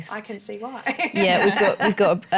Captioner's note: laughs